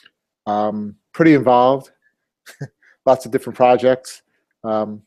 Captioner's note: laugh